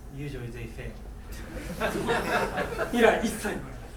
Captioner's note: laughing; speaking in foreign language